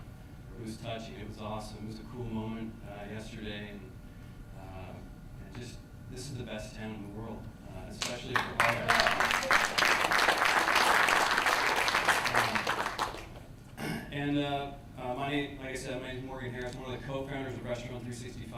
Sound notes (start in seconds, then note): 10.8 applause